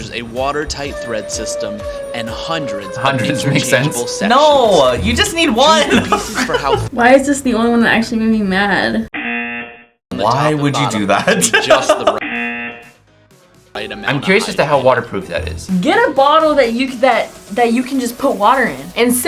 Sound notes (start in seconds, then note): 5.7 laughs; 9.1 buzzer rings; 11.0 laughs; 12.2 buzzer rings